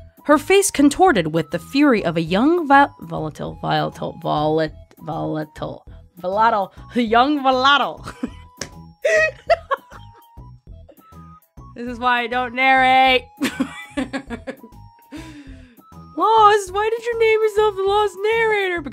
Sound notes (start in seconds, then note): 8.6 smack; 9.1 laughs; 9.1 laughs more; 13.5 laughs